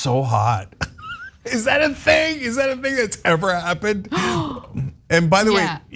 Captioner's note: laugh